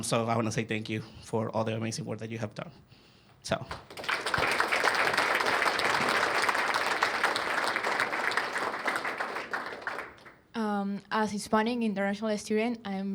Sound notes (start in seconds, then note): 5.4 applause